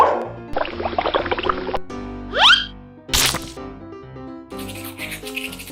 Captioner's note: bubble popping; squishy sploshing; toothbrush bristles rustling